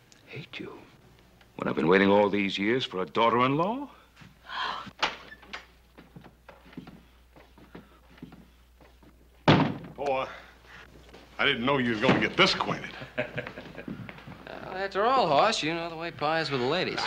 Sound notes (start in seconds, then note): 4.4 Mrs. Layton sighs; 5.0 door opening; 12.9 Ben chuckles